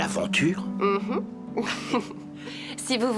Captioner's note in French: rires